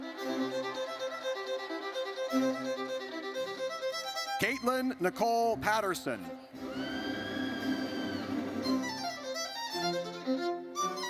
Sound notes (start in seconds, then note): 0.0 triumphant music; 6.6 audience member screams